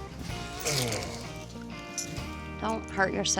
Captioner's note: grunts